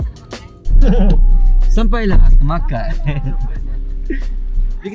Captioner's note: laugh